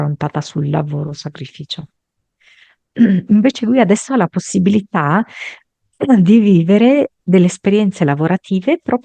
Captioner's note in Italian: schiarire la voce